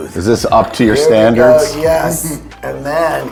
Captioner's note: chuckles